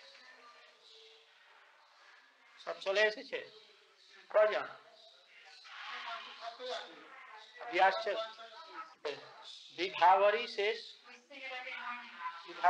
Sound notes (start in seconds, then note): 1.5 Hindi